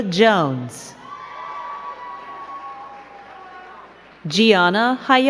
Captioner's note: crowd cheering and clapping